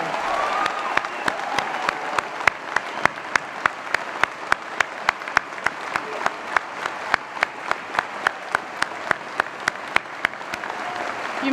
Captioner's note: applause & Cheering